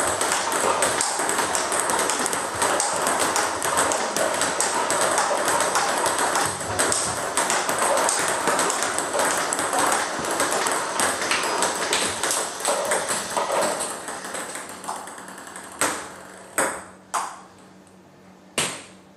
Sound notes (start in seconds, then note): 2.7 ball ping pong hitting continues